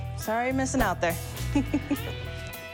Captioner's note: giggles